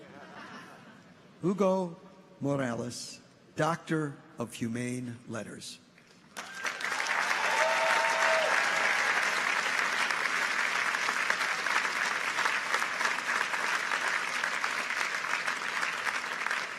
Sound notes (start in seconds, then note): 0.0 people chuckle; 6.2 audience applauds; 6.3 people cheer